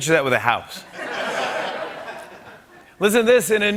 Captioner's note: laughter